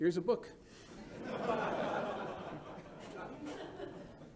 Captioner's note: laughter